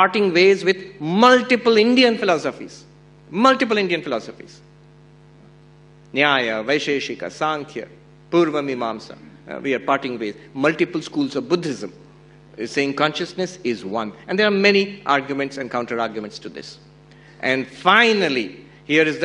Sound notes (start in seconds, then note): 6.7 non-english speech